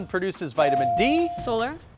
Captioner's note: buzzer dinging